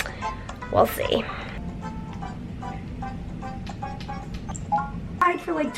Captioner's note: video game sounds